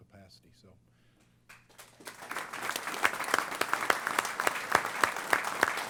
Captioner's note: applause